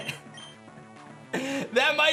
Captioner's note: giggles